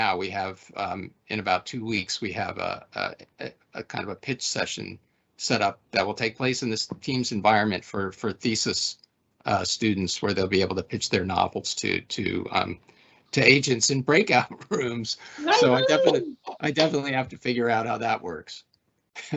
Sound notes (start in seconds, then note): 18.5 laughing